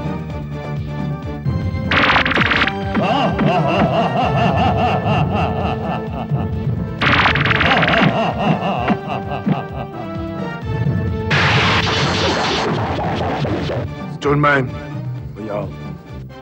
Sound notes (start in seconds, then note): 2.8 laughs